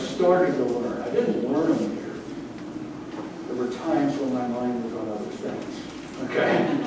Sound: laughter

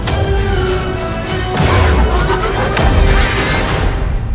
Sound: ships woosh; explosions

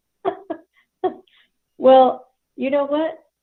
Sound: laughs

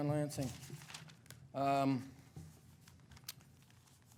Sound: papers rustling

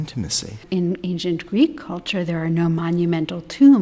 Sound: voiceover

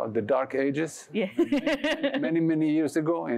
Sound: laughs

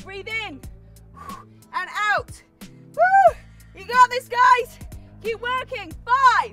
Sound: whew

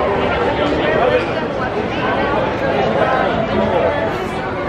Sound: crowd murmuring

